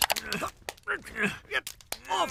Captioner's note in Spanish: Skinner gruñendo repetidamente